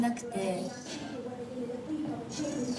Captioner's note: speaking in foreign language